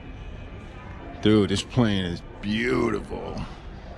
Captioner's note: excited